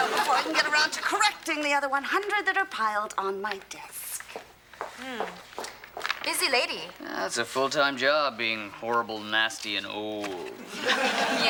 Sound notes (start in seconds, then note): 5.1 exclaims